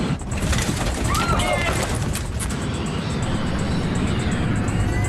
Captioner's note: passengers yelling